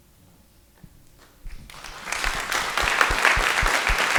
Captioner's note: audience applauds